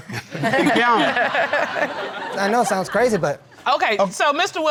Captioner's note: all laughing